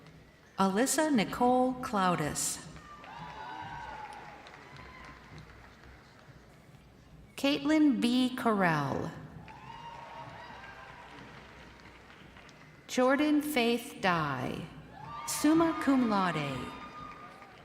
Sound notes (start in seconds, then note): 2.7 crowd cheering